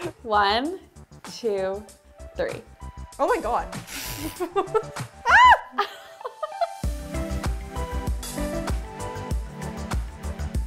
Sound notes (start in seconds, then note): 5.1 yelping; 5.3 giggling; 6.3 upbeat electronic music